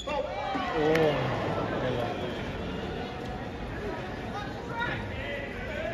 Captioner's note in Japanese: どよめき声